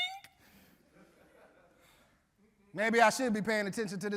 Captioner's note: audience laughing